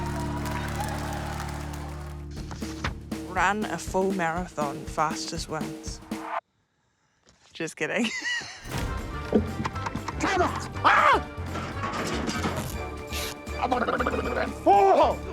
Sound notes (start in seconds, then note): 9.0 laughs; 10.3 screams; 10.6 yells; 13.7 blubbers lips